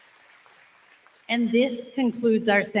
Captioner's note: applause